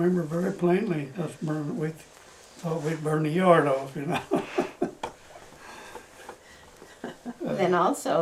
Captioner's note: laughs